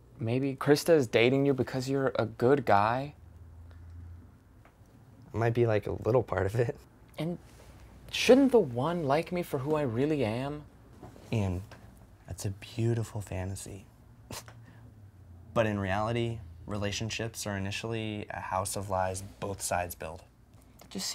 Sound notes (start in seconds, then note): 14.6 snickers